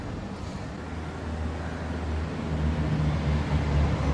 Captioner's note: sounds of traffic passing